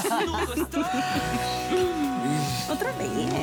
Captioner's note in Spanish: Risas